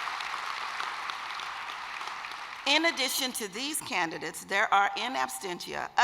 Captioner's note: applause